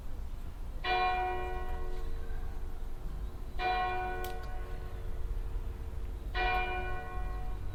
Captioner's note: Norwich Cathedral quarter chimes